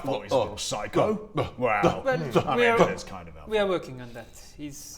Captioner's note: offended noises